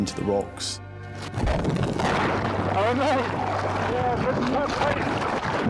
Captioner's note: water surges